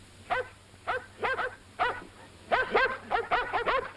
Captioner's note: dogs barking